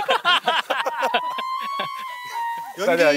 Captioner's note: they're laughing so much